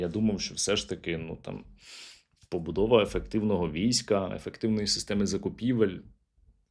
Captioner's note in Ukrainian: сопіння